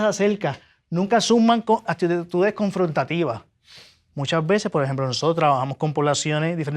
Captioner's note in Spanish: resoplido